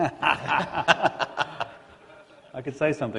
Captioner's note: laughter